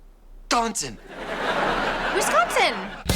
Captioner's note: audience laughing